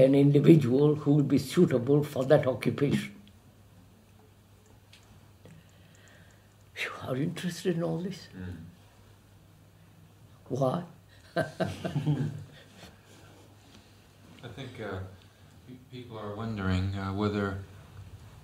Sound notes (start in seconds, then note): 11.1 laughs